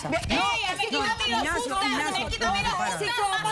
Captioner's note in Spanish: Discusión a gritos